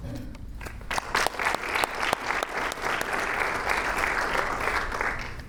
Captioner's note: audience applauding